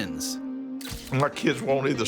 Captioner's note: camera snaps